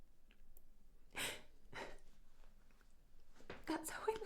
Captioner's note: Marianne continues crying softly